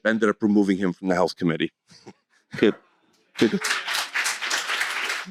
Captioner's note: applause